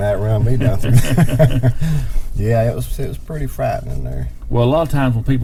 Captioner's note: chuckling